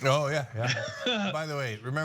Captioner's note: laugh